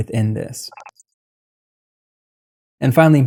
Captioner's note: beep